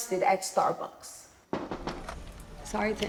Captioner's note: knocking on door